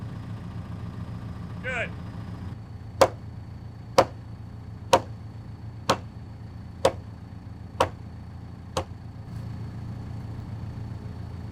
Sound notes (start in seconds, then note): 3.0 mallet pounding